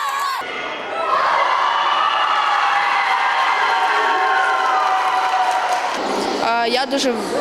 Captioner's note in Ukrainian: радісні крики дітей